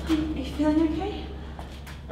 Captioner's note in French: none